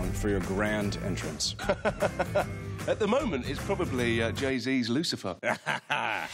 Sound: laughs

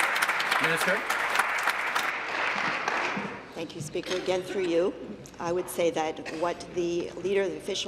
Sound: applause

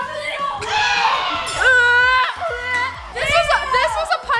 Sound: gagging

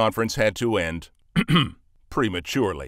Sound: clears throat

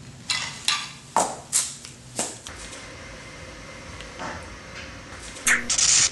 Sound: clank; whip, electrical noise

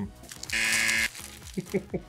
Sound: buzzer; laughs

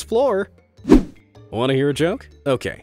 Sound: image whooshing

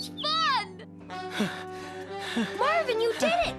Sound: gasping

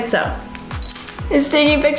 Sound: camera beeps and clicks

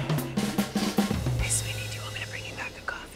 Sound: lively drum solo; whispering

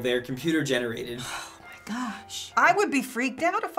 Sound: sighs

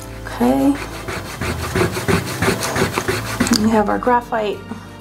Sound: eraser rubbing

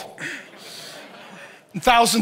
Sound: congregation laughs

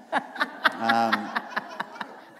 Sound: laughter

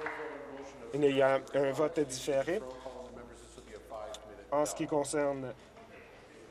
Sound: applause

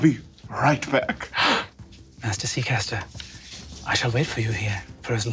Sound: gasps

